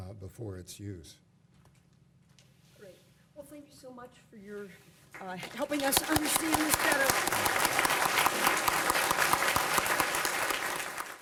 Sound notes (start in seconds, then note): 7.5 applause